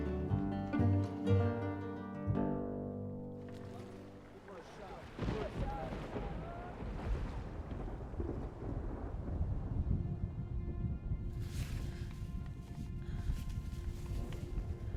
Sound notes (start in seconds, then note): 5.1 thunder